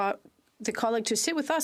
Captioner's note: speaking French